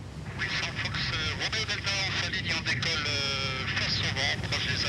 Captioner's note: speaking in foreign language